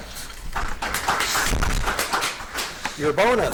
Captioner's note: audience applauds